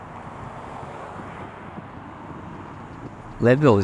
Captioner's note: muffled rumble of traffic